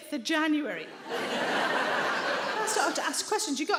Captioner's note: audience laughing